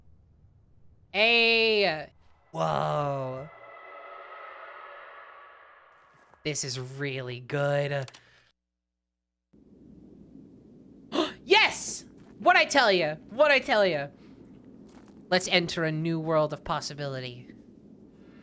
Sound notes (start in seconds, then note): 2.4 distant shrieking; 11.0 gasps